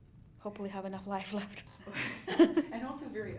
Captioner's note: laughs